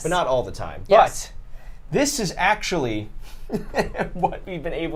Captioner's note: laughs